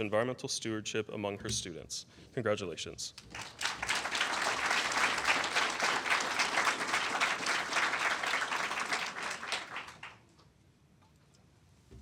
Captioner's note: applause